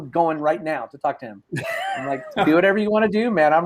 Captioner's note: laughs